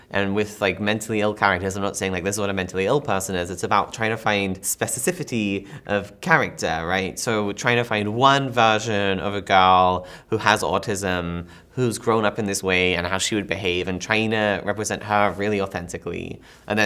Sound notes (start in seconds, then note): none